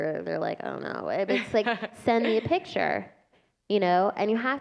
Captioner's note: laughter